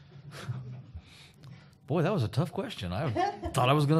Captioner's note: chuckle